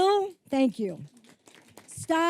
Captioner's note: applause